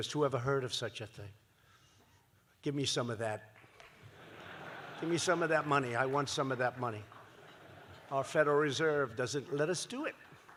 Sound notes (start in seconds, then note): 3.9 laughter